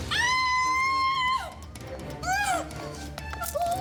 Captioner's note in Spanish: Gritos